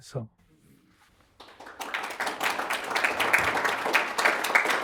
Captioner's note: audience applauding